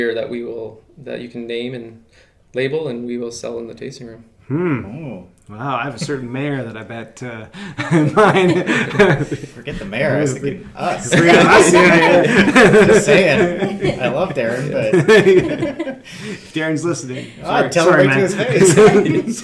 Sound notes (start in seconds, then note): 7.2 laughing; 11.3 laughing